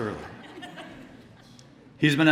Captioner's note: laughter